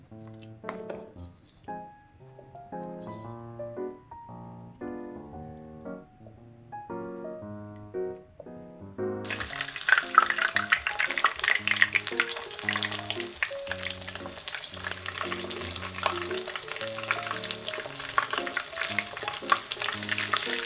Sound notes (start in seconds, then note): 15.0 sounds like rain ASMR